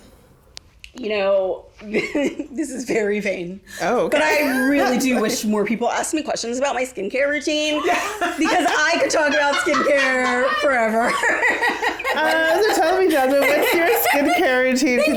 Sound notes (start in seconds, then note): 4.2 laughs; 8.0 laughs; 10.8 laughs; 11.2 all laugh